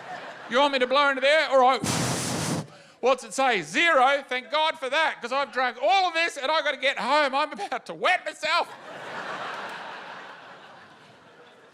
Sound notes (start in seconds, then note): 8.6 laughter